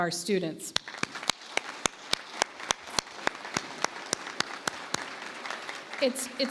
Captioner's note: applause